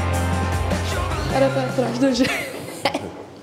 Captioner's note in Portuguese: rindo